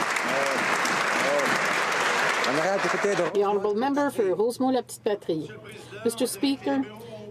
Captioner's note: some Applause